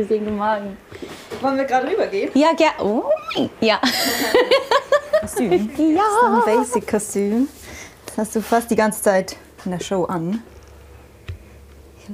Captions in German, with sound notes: Schön, dich zu sehen. Wollen wir grad rübergehen? Ja, gern. Ui! (lacht) Das ist ein Basic-Kostüm. Das hast du fast die ganze Zeit in der Show an.